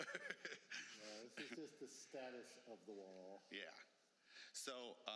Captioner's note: laughter